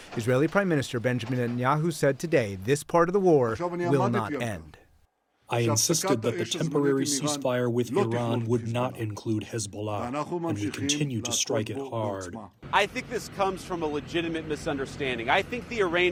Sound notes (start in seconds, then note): 6.0 through translator